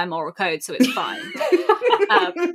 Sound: laugh

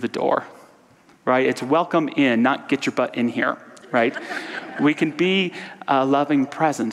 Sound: audience laughter

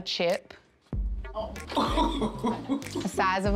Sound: laughs

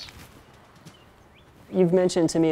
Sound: birds chirping

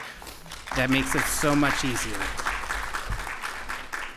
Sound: applause

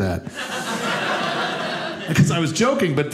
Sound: audience laughing

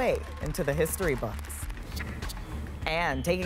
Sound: cheers and applause

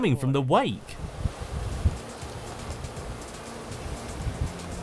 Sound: waves spreading

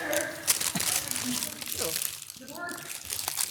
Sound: candies' wrappers scuffle

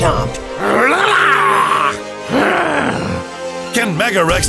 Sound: Mega Rex sounds

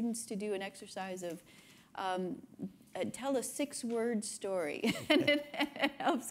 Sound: laughs

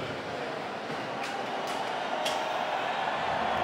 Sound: audience cheers

